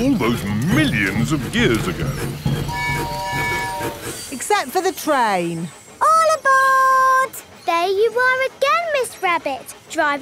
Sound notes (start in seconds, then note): 2.7 train tooting